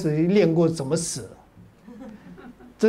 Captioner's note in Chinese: 哈哈哈